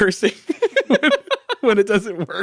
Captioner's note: both laugh